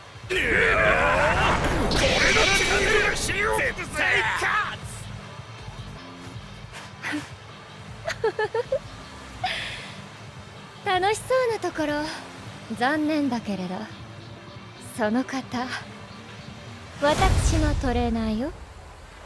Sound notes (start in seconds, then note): 8.0 laughs